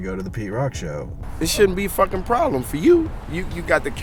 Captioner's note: voiceover